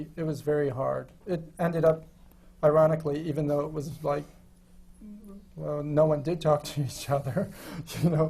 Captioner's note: laughs